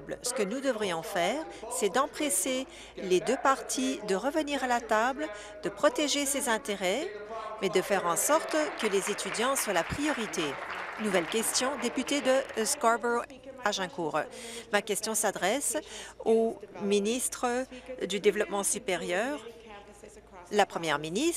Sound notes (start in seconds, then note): 11.9 applause